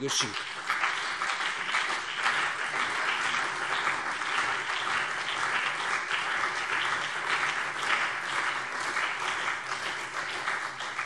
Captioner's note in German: Beifall CDU und BÜNDNIS 90/DIE GRÜNEN